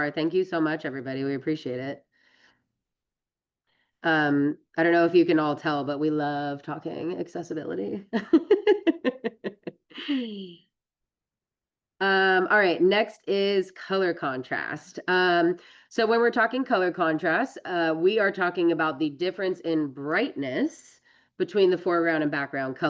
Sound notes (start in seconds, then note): 8.2 laughs